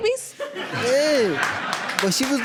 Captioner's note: audience laughing and applauding; applause continues